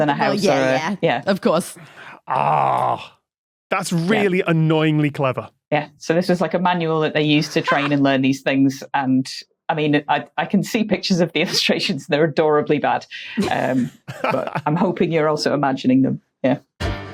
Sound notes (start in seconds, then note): 13.9 chuckles